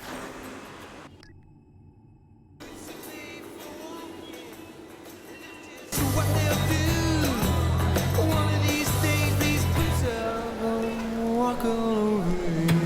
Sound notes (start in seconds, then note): 0.8 electronic beeping